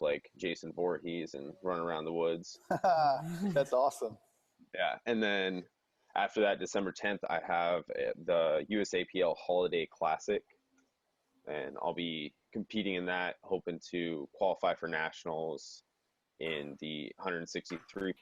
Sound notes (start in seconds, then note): 2.6 laughing